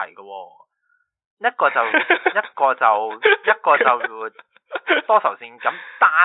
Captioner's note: laughs